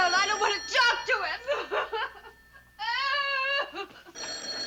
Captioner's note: sobbing